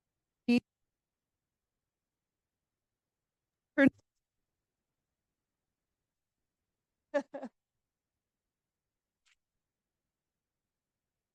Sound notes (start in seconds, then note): 7.2 chuckle